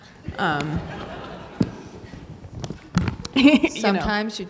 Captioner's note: audience laughing; laughs